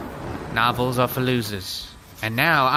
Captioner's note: flame fwoosh